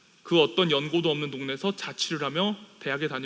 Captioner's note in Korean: none